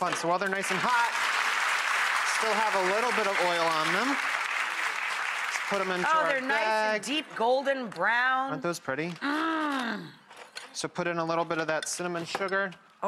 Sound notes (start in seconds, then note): 0.4 audience applause